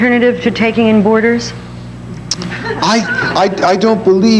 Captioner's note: audience laughing